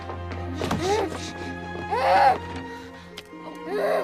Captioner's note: moaning